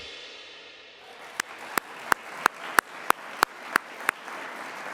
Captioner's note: audience applauds